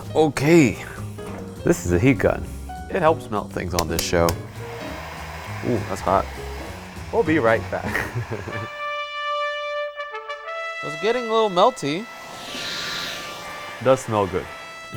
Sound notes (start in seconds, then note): 4.2 heat gun fan blowing; 7.8 laughs; 8.2 triumphant horn music; 12.1 exaggerated sniffing